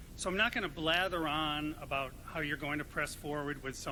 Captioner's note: none